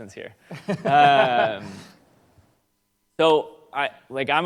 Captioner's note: laughs